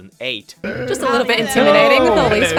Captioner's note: everyone greeting and heckling